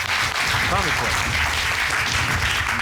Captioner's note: indistinct chatter